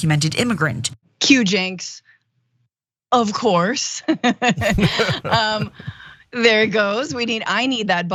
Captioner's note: laugh